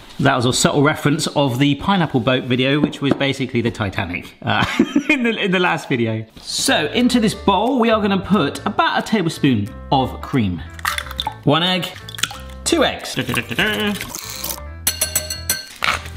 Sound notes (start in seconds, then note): 4.5 laughing; 6.2 background music